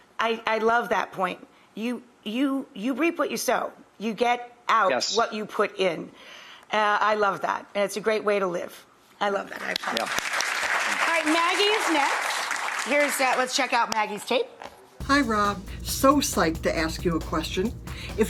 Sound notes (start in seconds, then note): 9.7 claps; 9.7 audience applauds